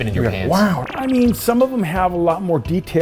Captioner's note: digital beeping